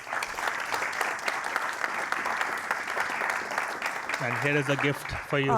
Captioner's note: applause